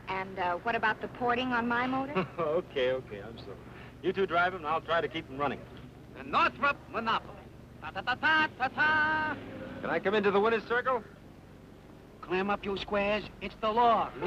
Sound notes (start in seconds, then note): 7.5 imitating triumphant fanfare